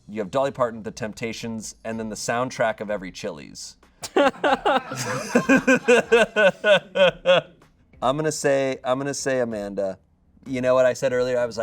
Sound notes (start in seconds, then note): 4.0 audience laughing